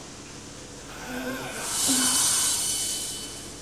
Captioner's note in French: Le monstre respire et grogne